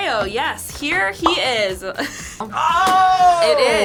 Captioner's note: laughs